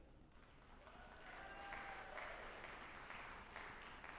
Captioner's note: audience applauding